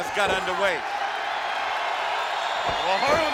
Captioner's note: crowd cheering excitedly